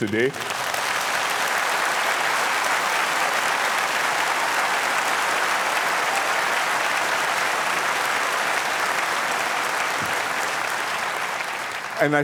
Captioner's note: applause